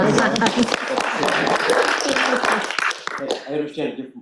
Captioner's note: applause